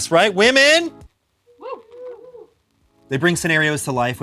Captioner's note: crew whooping